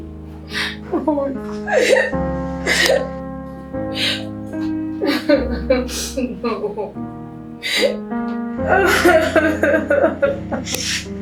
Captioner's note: sollozos